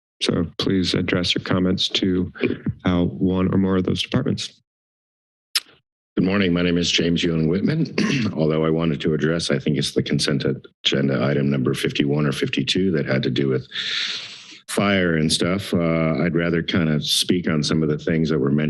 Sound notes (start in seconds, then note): 5.5 tongue clicks; 7.6 coughs